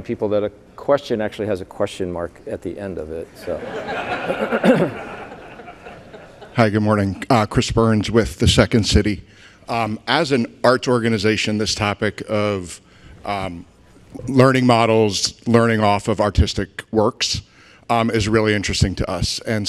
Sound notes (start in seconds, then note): 3.4 audience laughing